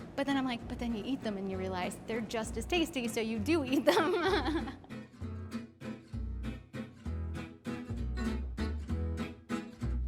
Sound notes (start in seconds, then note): 3.8 laughing; 5.0 upbeat guitar music